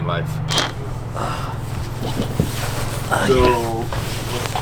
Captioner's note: sighing